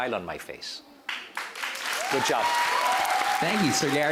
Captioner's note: clapping, cheering